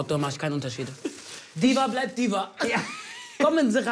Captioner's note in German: Beide lachen